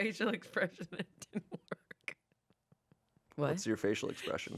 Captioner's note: laughs